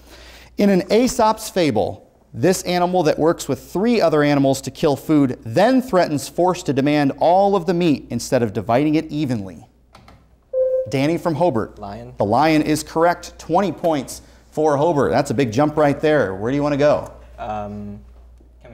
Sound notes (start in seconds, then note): 10.5 buzzer sounds